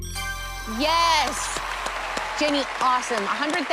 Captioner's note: ding